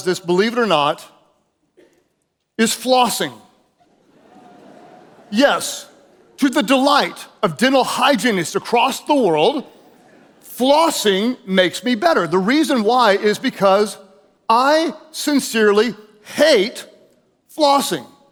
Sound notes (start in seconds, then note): 3.8 audience chuckles